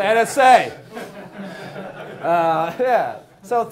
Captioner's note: class laughing